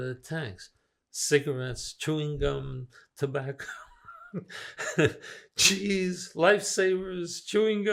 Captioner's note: laughing